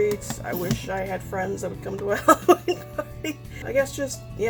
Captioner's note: laughs